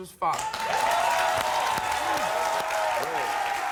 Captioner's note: cheering